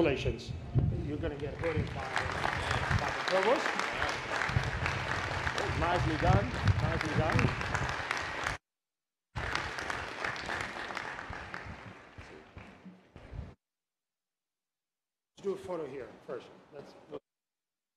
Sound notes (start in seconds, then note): 4.1 applause